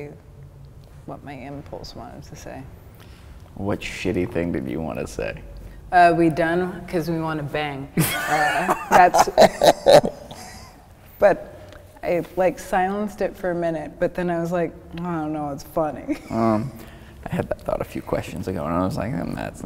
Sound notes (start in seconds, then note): 8.0 laughing; 16.1 chuckling